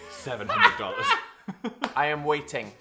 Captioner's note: people laughing